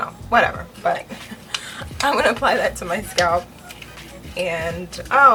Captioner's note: laughs